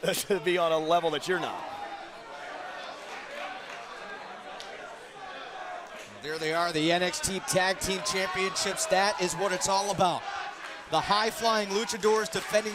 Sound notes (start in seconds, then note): 2.7 crowd chatter